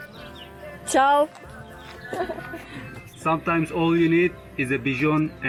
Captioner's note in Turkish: kahkaha